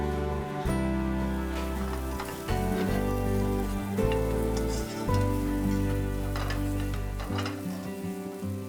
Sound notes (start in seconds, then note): 0.6 food sizzling; 1.6 gentle music